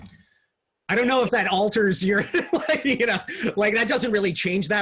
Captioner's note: laughs